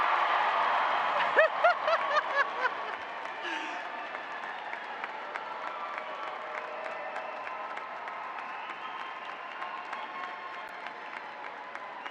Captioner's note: applause